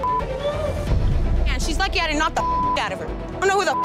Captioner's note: beep